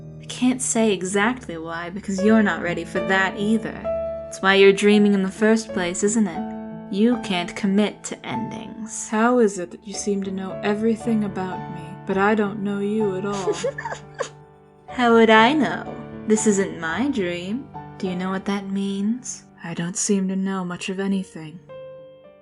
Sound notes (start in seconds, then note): 13.3 STARSCREAM giggles